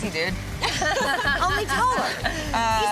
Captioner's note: laughter